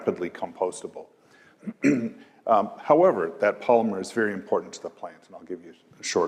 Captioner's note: cough